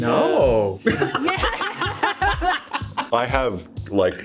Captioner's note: group laughing